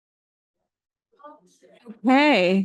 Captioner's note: people chattering